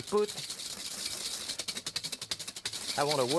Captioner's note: whisk rattling